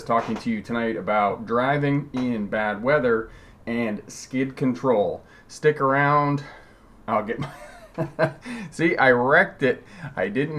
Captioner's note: laughing